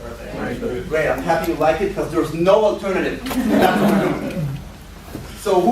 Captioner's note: laughter